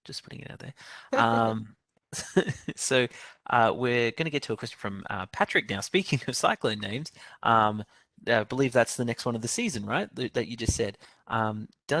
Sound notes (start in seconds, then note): 2.1 laughter